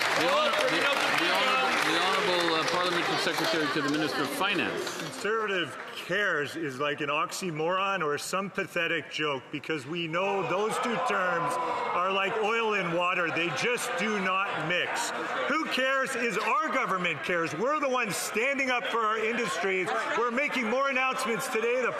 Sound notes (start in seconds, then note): 5.0 some Applause